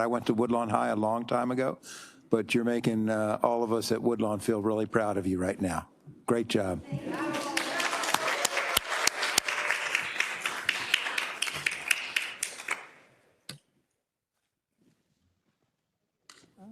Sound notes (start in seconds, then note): 7.0 attendees applauding